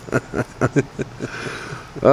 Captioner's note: laughing